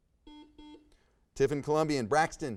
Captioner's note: buzzer buzzes